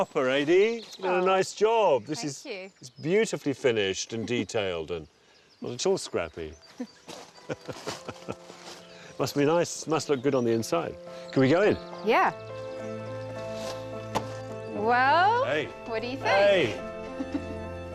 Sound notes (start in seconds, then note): 7.4 laughing; 7.4 aide chuckles; 12.7 gentle piano music; 17.1 aide chuckling